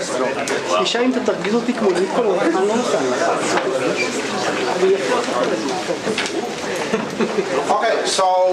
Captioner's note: background chatter